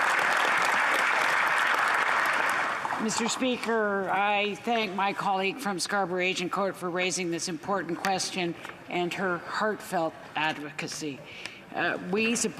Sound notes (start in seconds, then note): 0.0 applause